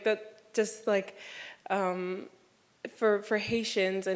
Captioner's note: none